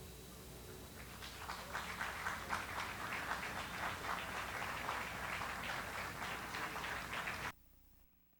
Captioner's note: audience applause